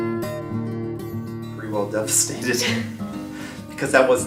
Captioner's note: laughs